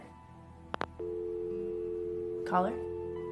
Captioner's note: phone hangs up